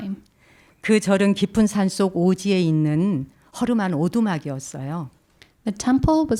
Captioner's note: speaking in Korean